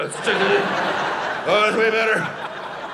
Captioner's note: audience laughing